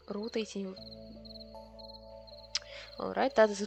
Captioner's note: confused silence